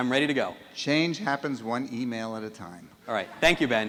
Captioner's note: voiceover